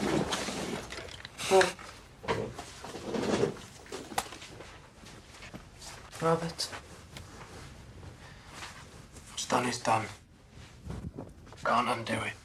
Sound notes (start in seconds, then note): none